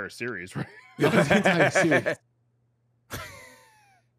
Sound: laughs

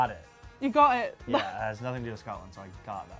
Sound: laughs

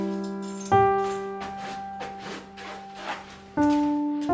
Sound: wipes shoes on carpet

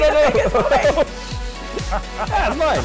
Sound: exclaiming and laughing

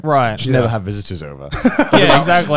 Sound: laughing

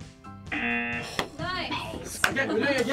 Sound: buzzer

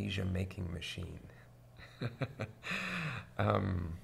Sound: laughs

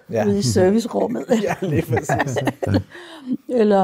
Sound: laughs

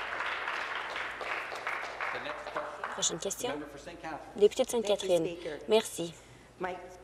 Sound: applause

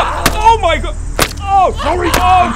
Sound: smash

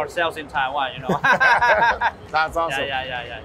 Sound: both laughing

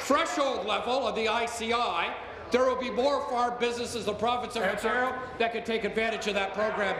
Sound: applause

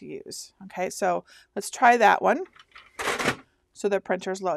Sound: paper cartridge rattles shut

